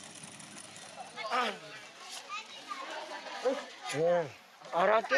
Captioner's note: speaking in foreign